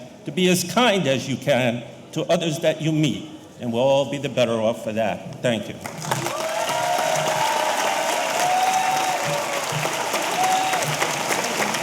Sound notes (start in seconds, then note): 5.8 audience applauding; 6.1 audience cheering